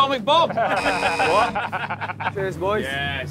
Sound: laughing; buzzer buzzes

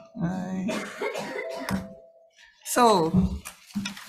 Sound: audience member coughing

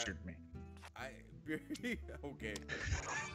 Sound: laugh

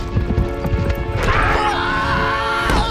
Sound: screaming; grunting

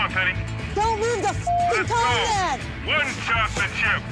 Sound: beeps

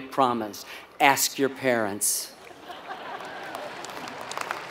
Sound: laugh; applause

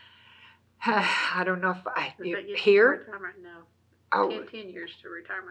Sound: laughs

